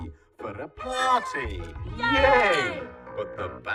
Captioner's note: shouts